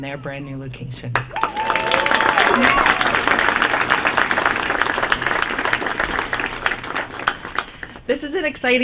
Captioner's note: applause